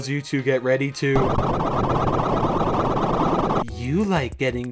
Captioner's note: sorting algorithm sounds